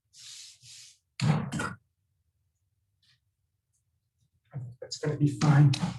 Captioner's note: hand slapping